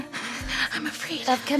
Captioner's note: heavy breathing